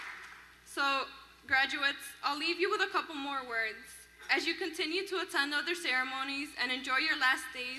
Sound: applause

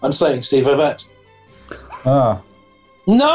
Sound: chuckling

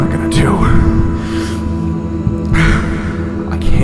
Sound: heavy breathing

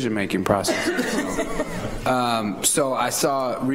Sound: laughter

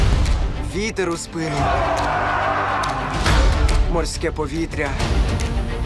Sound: pirates shout

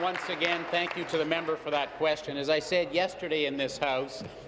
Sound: applause

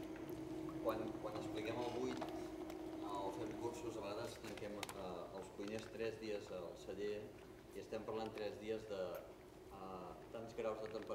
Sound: speaking catalan

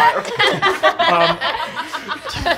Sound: all laughing

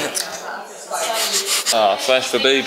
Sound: nervous nose breathing

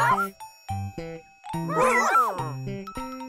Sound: barking

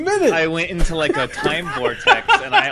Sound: laughs

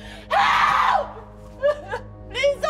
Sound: crying

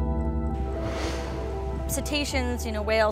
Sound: water spraying

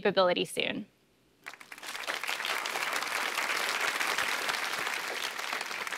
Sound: applause

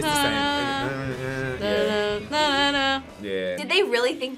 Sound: both humming

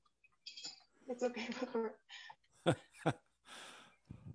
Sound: chuckles

